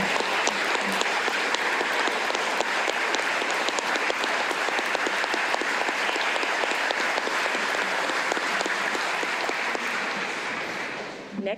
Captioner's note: applause